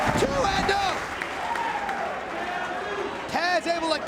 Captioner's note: spectators cheering and applauding